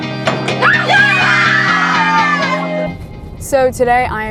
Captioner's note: yelling